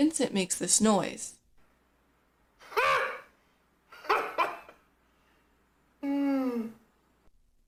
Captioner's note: laugh that sounds like a horn, chuckles, long sigh